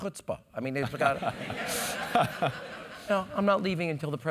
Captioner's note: laugh